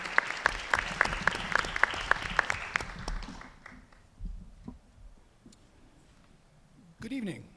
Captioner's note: applause